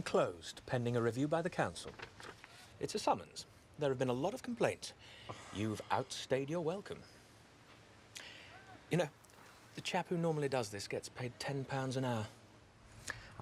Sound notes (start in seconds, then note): none